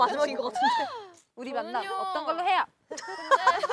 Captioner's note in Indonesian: Huh!